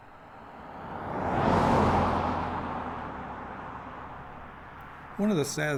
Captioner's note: sound of a car on road